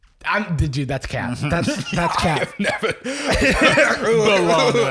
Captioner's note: laughing